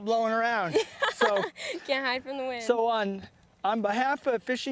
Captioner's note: laughter